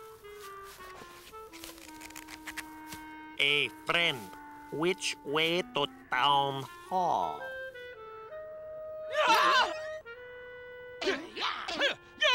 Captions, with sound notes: Hey, friend. Which way to town hall? (SCREAMS) (GRUNTS)